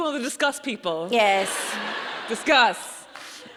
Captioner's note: audience laughs